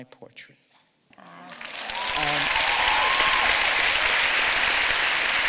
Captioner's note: applause